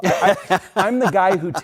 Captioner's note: laughter